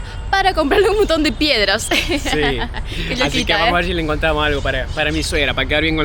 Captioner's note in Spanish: risas